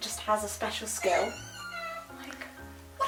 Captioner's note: Rupert squeals